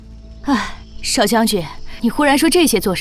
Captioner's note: sigh